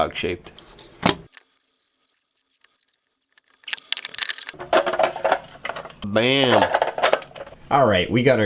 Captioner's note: clacking of plastic pieces hitting each other